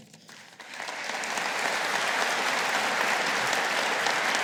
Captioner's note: audience applauding